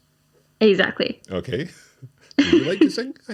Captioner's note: laughing